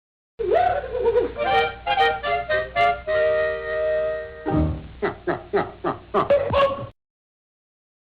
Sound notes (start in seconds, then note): 1.0 jolly music; 5.0 man laughing